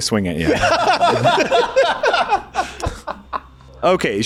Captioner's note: laughing